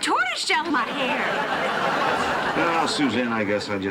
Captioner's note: laughter